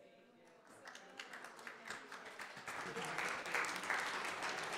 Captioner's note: everyone applauds